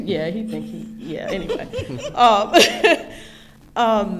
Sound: laughing

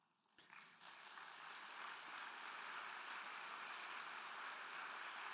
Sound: crowd clapping

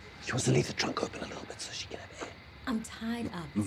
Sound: whispering

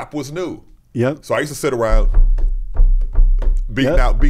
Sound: taps table

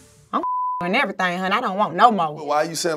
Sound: beep

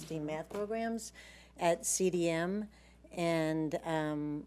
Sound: none

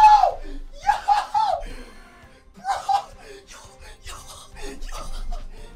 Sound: excitedly screams

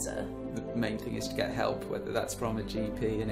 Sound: voiceover

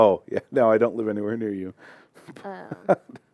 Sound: laughter

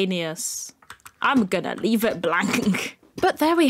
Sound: laugh

